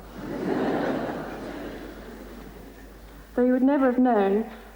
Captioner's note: crowd laughing